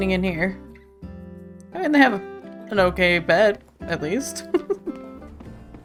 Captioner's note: laughs